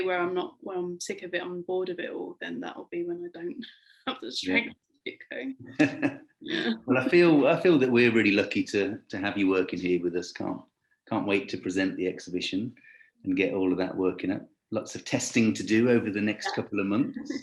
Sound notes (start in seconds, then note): 5.7 laughing